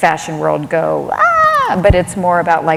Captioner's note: screaming